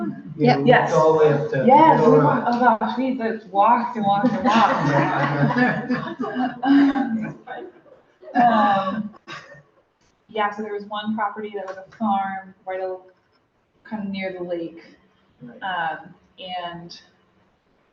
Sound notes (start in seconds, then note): 6.7 laughter